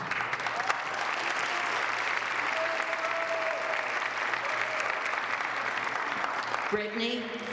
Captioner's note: applause